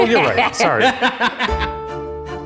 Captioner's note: laughing; ominous music